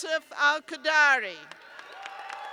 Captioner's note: cheers and applause